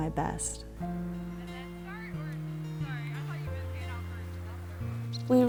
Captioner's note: indistinct chatter